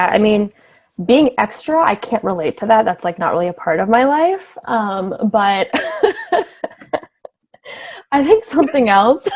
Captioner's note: laughs